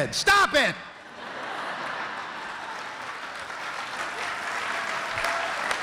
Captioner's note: laughter and applause